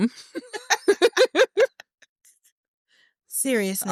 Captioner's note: laughter